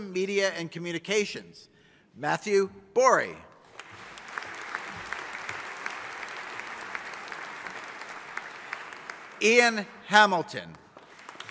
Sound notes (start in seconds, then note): 3.7 audience applauding